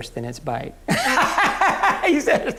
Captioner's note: laughing